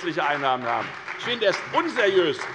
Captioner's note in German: Beifall bei der FDP und bei Abgeordneten der SPD